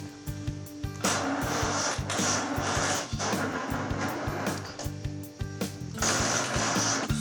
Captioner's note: engine grinding